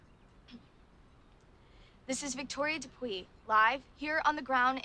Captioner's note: clears throat